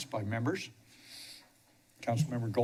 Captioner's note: pause